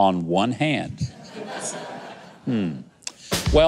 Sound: audience laughs

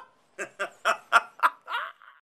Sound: laughter

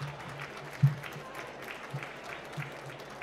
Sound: applause

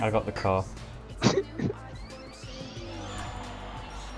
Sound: snickering

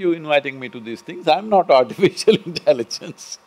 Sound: laughs

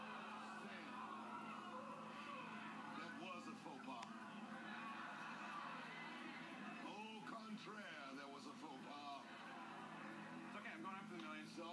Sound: audience groans

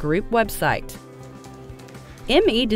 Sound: typing on keyboard

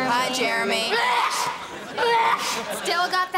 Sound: sneezing

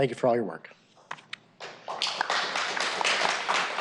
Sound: applause

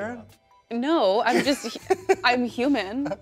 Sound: laughs

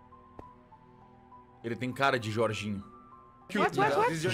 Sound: in Portuguese; in English

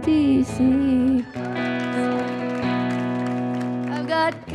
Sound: audience applauding and cheering

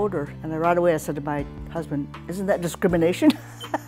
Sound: laughs

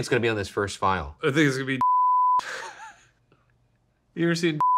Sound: laughing

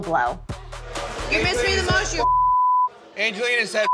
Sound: beep

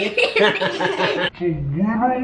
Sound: laughs

